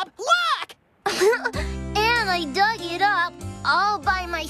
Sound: giggling

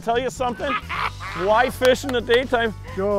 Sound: loud laughing

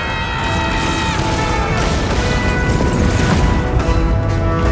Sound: lasers whirring

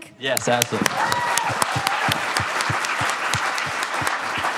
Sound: audience applauding

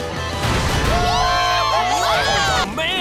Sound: cheering

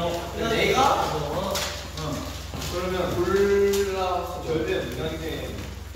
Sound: chatter

